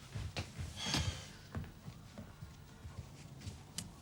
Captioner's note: sighs